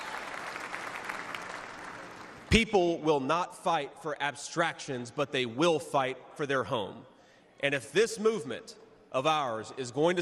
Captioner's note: cheers and applause